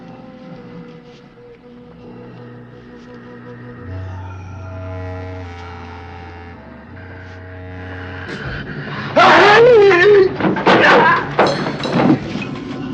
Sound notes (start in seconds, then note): 9.8 yelling